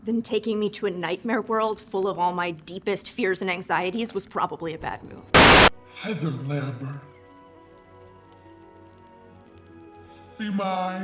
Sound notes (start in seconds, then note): 5.3 static buzzing